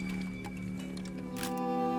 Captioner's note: camera clicks